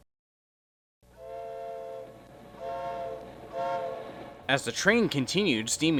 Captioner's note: train whistle blows